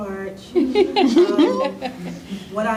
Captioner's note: laughter